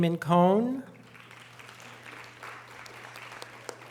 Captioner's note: audience applause